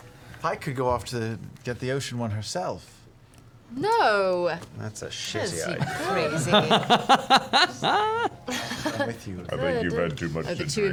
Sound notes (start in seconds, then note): 5.6 laughs